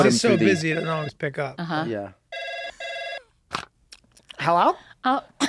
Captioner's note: phone rings; Kaitlin laughs